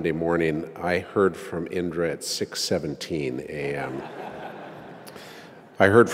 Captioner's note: laugh